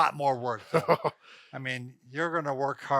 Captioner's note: laughs